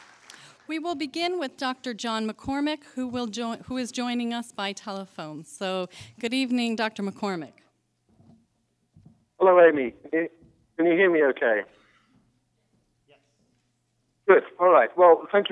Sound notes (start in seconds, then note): 0.0 applause; 9.2 with British accent